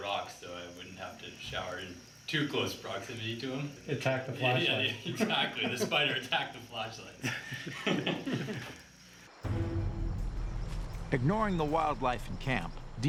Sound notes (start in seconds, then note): 4.6 laughs; 9.4 dramatic suspenseful music